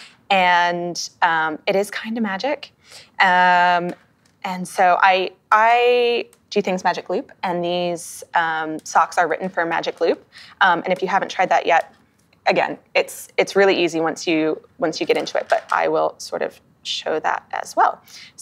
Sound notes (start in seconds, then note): none